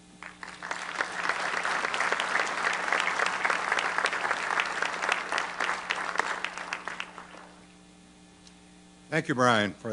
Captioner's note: applause